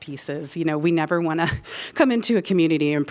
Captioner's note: laughter